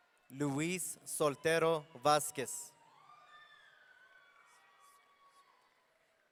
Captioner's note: audience cheering; audience cheering